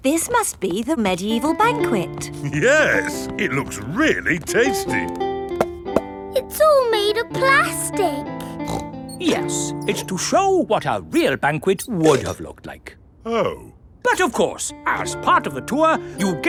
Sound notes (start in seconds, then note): 5.4 hollow taps; 8.4 snorts